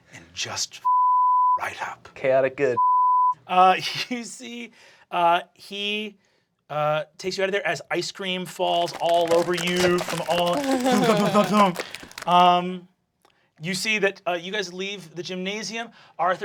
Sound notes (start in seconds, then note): 0.7 beeping; 10.9 imitating ice-cream thudding